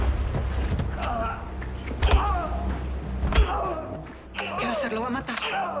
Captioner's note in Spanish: Golpes